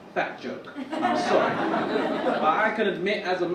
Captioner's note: audience chuckle